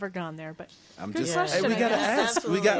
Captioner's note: all chattering